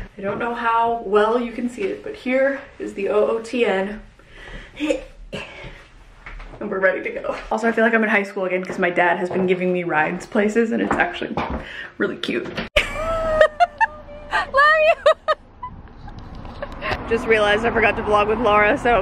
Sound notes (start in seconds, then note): 12.8 laughing